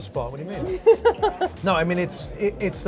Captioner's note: woman laughs